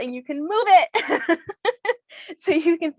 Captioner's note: laughs